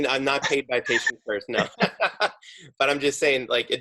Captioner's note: laughing